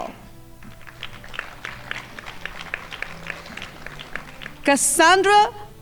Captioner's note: crowd applauding